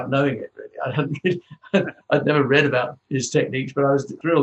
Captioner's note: chuckles